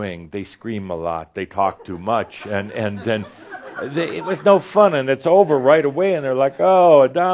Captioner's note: some laughter